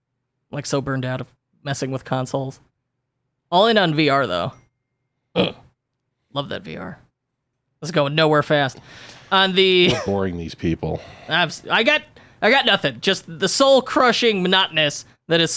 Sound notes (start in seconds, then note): 5.4 grunts